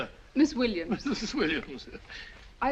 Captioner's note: giggling